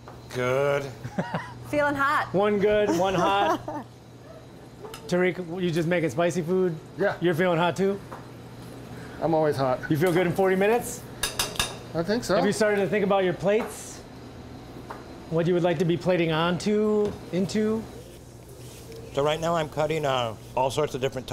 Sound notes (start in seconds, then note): 1.0 laughing; 2.8 laughing